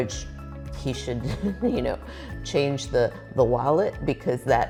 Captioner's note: chuckling